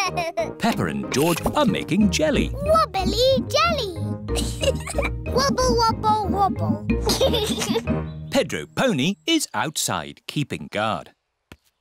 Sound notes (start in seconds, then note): 4.3 giggles